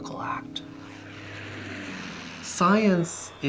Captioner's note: plane engine roars